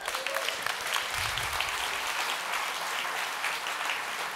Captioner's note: audience applauds